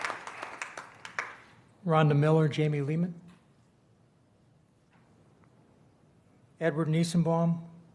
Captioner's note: applause